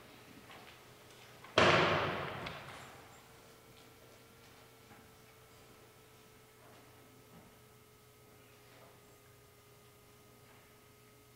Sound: gun salute

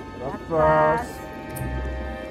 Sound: distorted voice

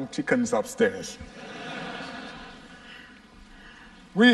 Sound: laughter

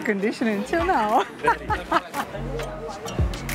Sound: laughs

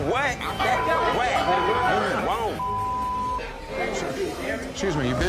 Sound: beep

